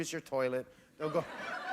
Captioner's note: laughter